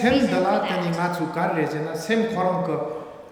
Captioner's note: speaking tibetan